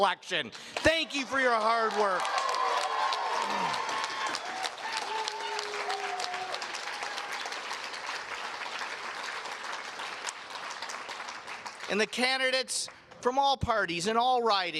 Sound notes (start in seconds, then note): 0.7 cheers and Applause